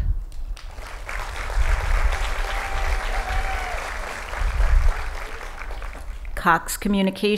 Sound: applause

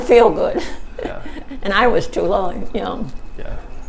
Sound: chuckles

